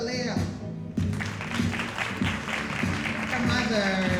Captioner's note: audience applauding